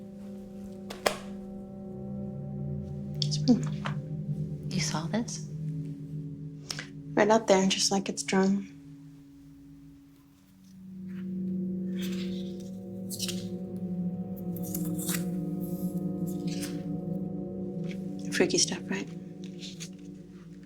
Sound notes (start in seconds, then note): 0.1 creepy music; 11.0 pages rustling